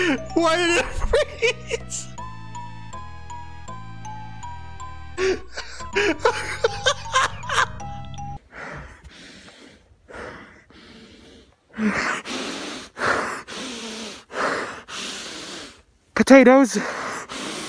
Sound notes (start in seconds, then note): 5.2 continues Laughing; 8.4 exhausted Breathing